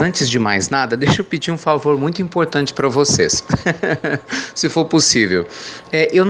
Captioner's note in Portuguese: Risos